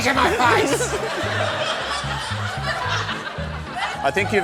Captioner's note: laughter